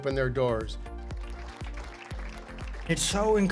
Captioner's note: audience applauding